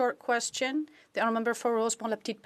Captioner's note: speaking French